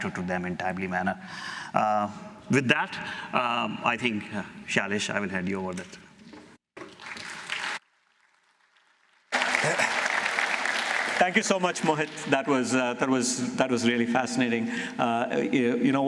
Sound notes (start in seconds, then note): 6.1 applause